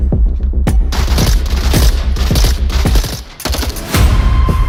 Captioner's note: tense upbeat music; guns firing; tense upbeat music